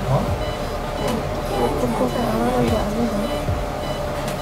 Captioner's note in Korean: 작은 목소리